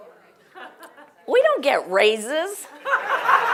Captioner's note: laugh